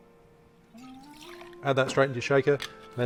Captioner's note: liquid sloshing